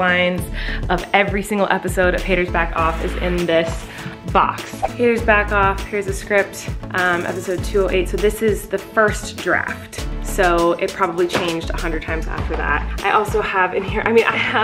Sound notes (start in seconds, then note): 4.0 whooshing; 11.2 thudding